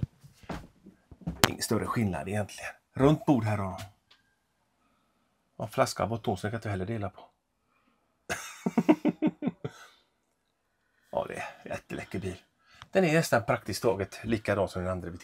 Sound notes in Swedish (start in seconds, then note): 8.3 Skratt